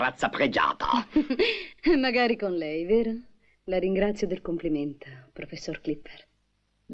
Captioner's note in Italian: risate